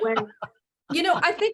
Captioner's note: laughter